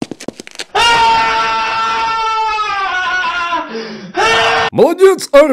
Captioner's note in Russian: истошные вопли